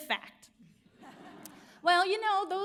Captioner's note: audience laughs